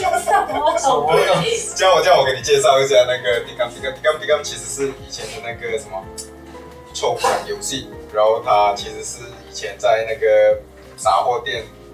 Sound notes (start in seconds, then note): 0.0 laughs; 4.8 guessing in Malay language